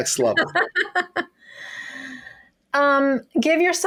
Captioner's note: laughing